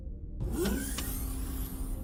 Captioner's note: pneumatic door opening